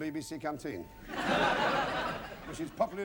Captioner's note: laughter